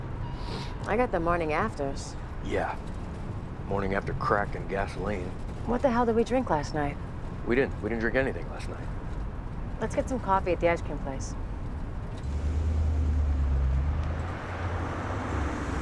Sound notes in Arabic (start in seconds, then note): none